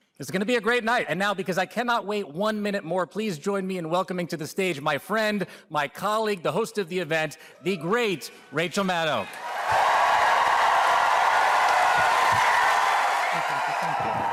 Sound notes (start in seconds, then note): 11.6 applause